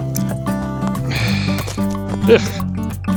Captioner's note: sigh